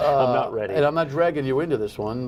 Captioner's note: laughter